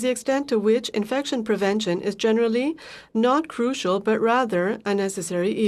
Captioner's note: speaking french